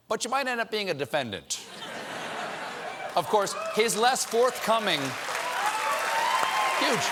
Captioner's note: cheers and applause